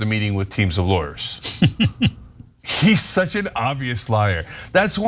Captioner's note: laugh